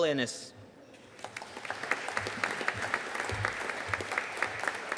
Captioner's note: audience applauding